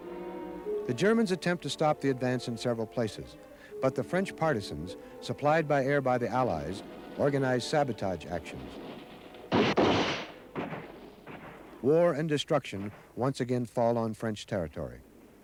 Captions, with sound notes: The Germans attempt to stop the advance in several places, but the French partisans, supplied by air by the Allies, organize sabotage actions. (guns blast) (gun clacks) War and destruction once again fall on French territory.